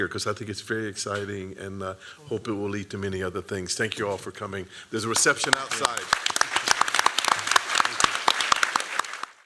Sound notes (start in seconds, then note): 7.2 applause